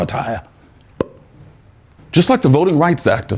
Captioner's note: pop noise